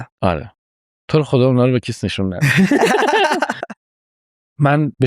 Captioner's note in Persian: خنده